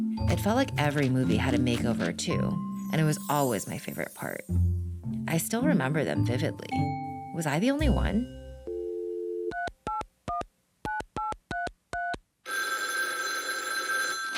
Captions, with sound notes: It felt like every movie had a makeover too, and it was always my favorite part. I still remember them vividly. Was I the only one? [dial tone] [dialing phone] [ringing]